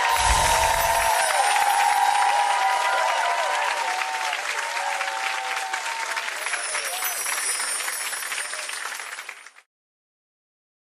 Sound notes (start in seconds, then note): 0.2 audience applause; 6.3 bells chiming